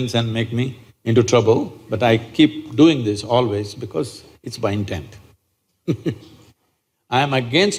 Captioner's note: laughs